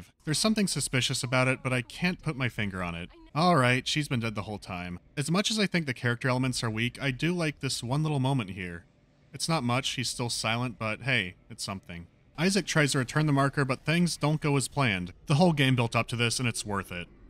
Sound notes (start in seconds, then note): none